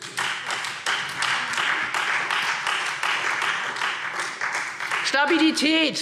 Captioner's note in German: Beifall Freie Demokraten